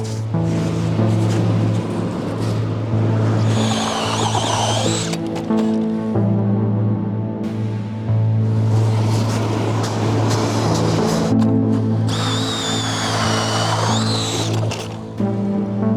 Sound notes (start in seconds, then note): 3.8 auger drilling; 12.0 auger drilling